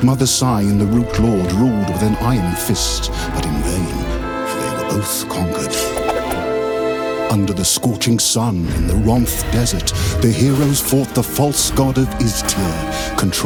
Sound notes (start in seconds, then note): 5.8 blade screeches; 5.9 air whooshes; 6.7 mystical music